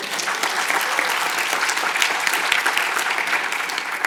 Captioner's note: audience applauding